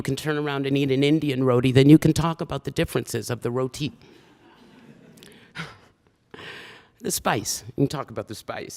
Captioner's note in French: Rires